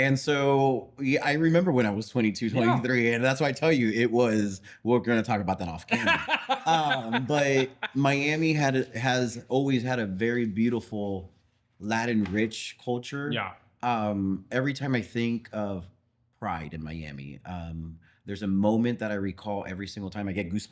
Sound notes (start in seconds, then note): 5.9 both Laughing